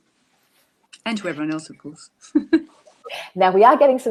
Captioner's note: chuckles